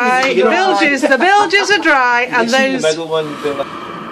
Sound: laughs

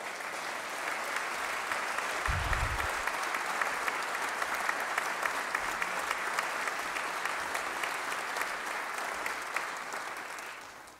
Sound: applause

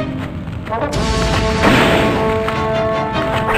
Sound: gunshot

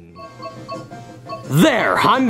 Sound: game dinging

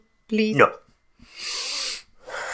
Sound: sigh

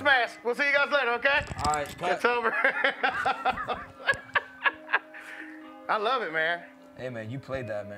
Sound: laughs

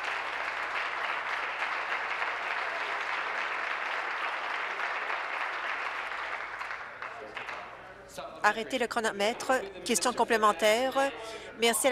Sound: applause

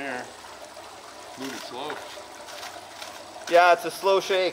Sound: water splashing

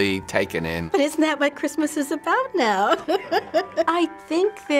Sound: laughs

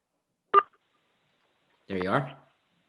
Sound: timer beeps

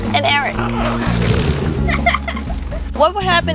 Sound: balloon sputters, kids giggle

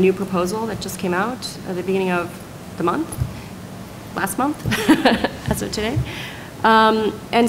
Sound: laughs

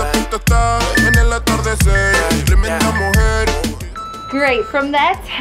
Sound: alarm beeping

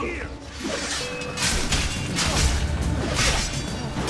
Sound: fighting sounds

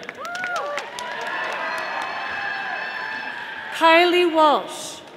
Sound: audience applauding

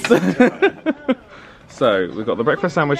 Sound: laughs

